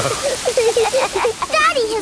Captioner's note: laughing